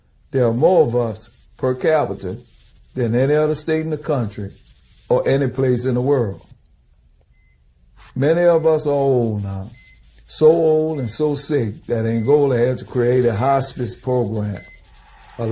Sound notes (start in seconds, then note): none